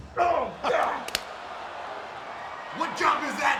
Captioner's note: crowd cheering; glove snaps